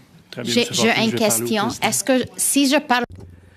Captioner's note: speaking french